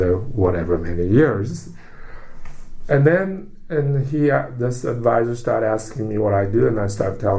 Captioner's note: takes breath